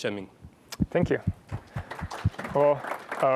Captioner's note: applause